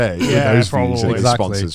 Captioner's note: clears throat